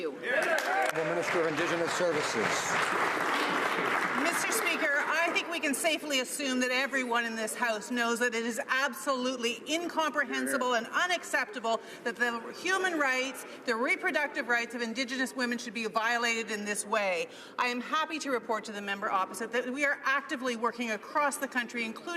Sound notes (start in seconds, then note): 3.2 some Applause